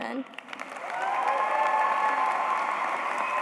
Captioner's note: applause